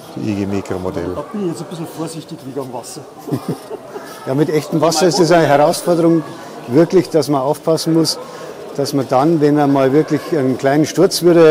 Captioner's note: laughter